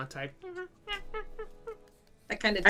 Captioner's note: monkey noises